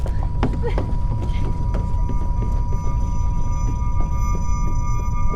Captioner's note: Shelby breathing heavily